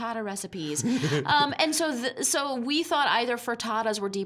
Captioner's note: laughing